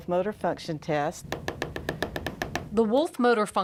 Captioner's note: therapist tapping